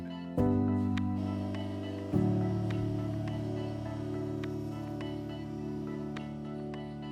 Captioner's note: platform motor whirring